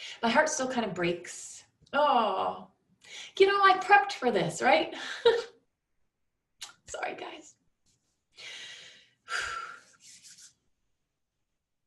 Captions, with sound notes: My heart still kind of breaks. Oh, you know I prepped for this, right? Sorry guys. (exhales)